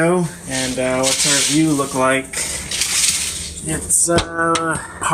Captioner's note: curtains rattle against rods